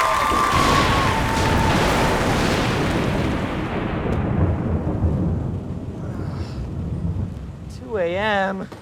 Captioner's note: thunder